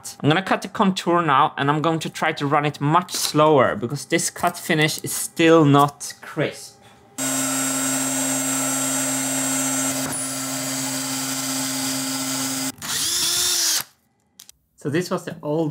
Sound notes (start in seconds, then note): 7.1 machining noises